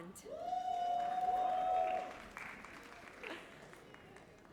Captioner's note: audience cheers